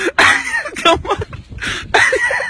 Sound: laughs

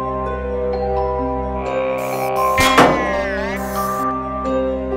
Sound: soft Machine Humming

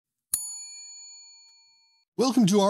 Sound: bell dings

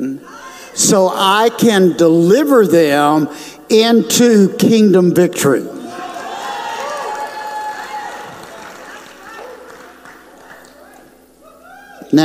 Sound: audience cheers

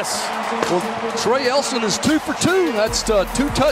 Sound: voiceover

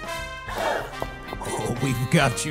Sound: crowd gasps

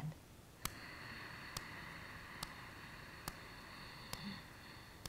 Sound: deep breathing

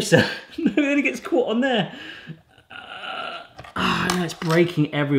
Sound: grunts

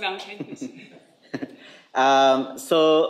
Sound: laughs

